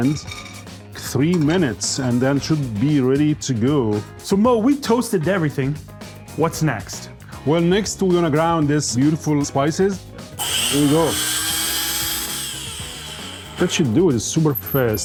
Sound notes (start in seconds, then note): 10.4 spices grinding